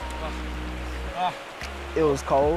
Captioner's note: moaning